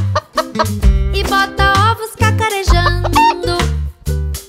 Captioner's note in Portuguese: som de galinhazinha; som de galinhazinha